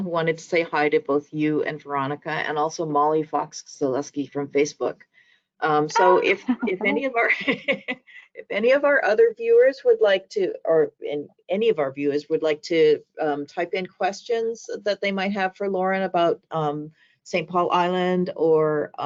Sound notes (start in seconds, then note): 6.0 laughing